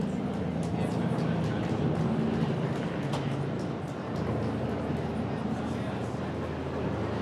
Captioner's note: unintelligible audience chatter